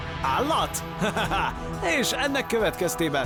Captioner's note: laughs